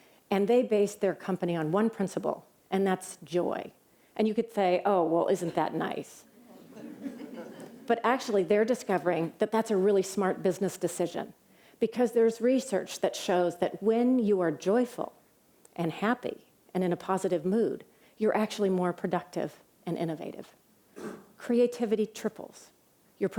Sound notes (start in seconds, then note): 6.4 laughter